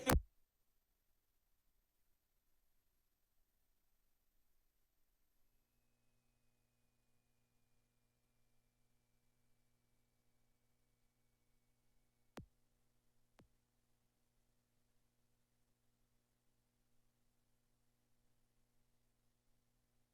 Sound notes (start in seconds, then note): 0.9 silence